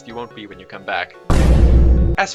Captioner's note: thud pitched up that just sounds like Iron Golem abuse